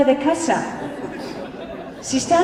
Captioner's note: laughter